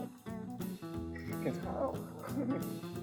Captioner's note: pat pat